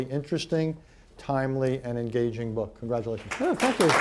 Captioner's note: applause